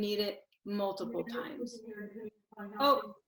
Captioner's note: woman mumbling